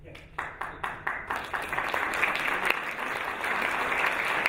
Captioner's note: audience applauding